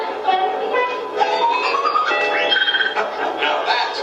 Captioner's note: bells and whistles